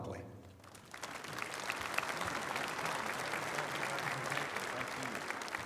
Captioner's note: applause